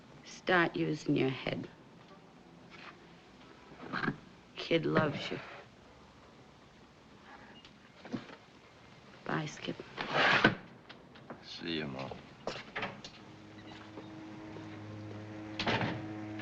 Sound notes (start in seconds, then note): 12.5 door opens, closes